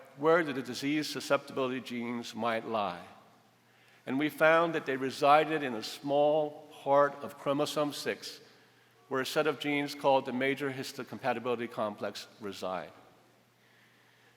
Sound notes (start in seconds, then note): none